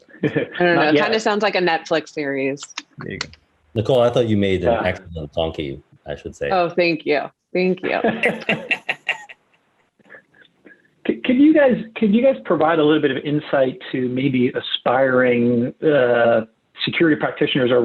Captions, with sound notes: - I dunno, it kind of sounds like a Netflix series. - There you go. - Nicole. I thought you made an extra little donkey, I should say. - Thank you. Thank you. (laughs) - Can you guys provide a little bit of insight to maybe aspiring security practitioners